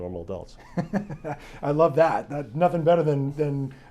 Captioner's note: laughs